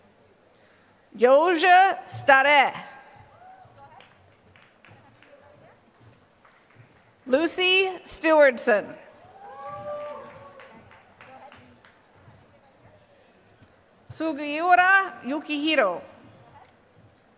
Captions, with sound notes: Yoja Stare. [APPLAUSE] Lucy Stewardson. [APPLAUSE] Sugiyura Yukihiro.